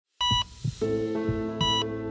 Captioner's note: machine beeping; soft music